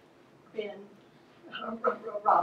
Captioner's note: voiceover